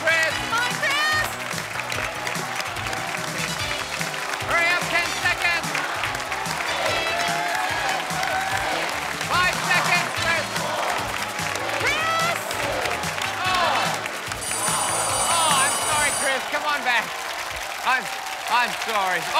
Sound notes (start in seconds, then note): 14.3 bell ringing